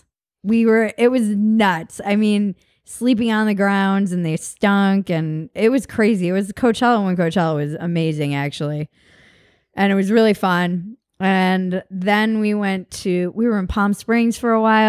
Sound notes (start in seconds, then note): none